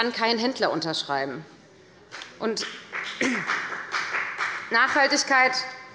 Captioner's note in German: Beifall bei der FDP